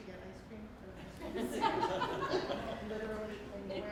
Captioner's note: laughing